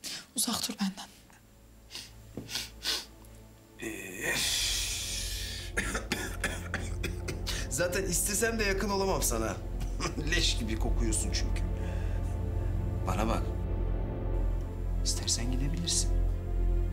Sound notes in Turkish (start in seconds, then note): 5.5 Öksürüyor